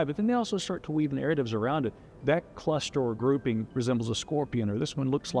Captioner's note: none